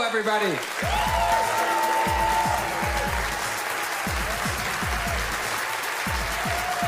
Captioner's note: audience cheers